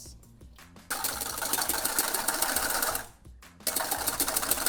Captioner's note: whipping